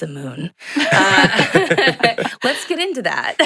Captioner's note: laugh